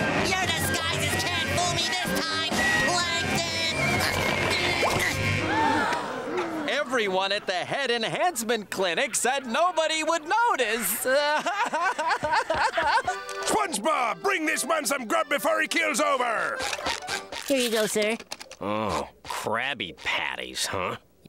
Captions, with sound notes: Your disguises can't fool me this time Plankton! [grunting] [gasps] Everyone at the Head Enhancement Clinic said nobody would notice! [crying] SpongeBob! Bring this man some grub before he keels over! -Here you go sir. -Oh, Krabby Patties huh?